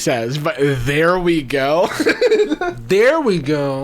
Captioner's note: laughing